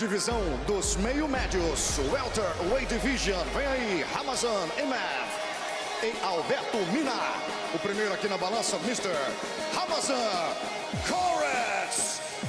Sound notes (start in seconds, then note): 1.9 speaking foreign language